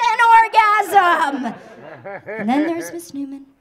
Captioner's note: audience laughing